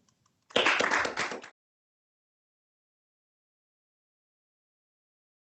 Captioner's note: audience applauding